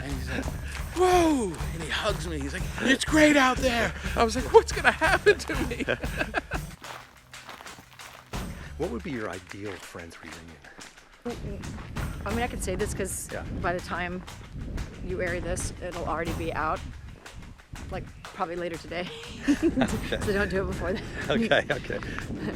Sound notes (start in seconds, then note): 6.1 laughing